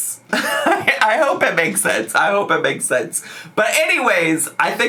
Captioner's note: laughs